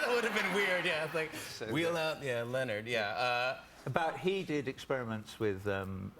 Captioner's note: laughter